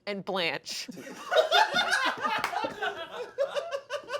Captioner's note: everyone laughs